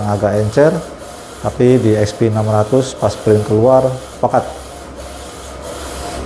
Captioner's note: printer machine noise